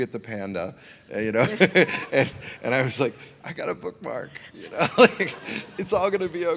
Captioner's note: laughs